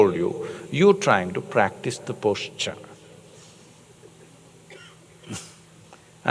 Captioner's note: laughs